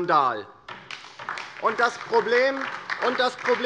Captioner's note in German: Beifall DIE LINKE